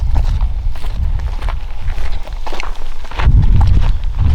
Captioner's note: footsteps crackle